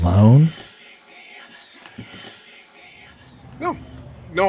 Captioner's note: echoing voices